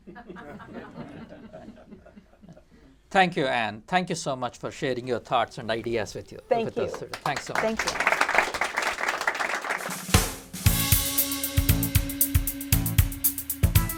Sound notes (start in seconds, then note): 0.0 laughter; 8.6 applause